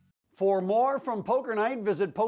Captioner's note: voiceover